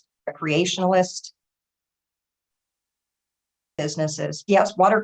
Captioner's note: audio drops out